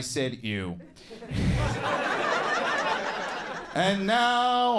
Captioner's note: audience laughing